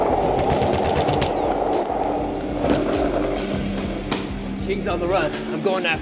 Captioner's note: bullets ricocheting; gun firing